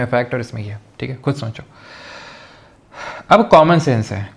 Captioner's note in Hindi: गहरी सांस लेने की आवाज़; अचानक ज़ोर से सांस लेने की आवाज़